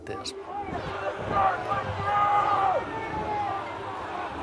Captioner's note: people shouting